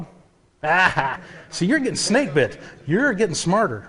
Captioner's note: laughs